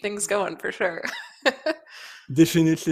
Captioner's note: laughs